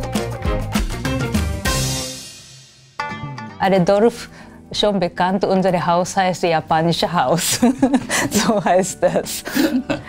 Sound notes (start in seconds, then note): 9.4 laughs